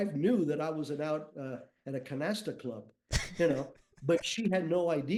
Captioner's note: chuckles